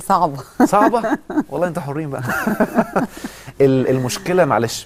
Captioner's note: laugh!